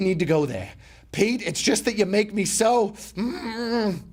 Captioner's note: groaning